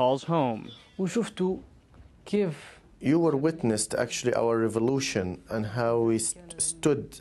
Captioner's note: through translator